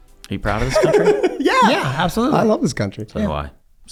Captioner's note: Rob and Charlie laugh